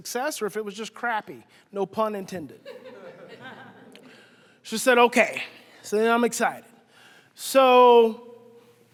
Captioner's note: audience laughing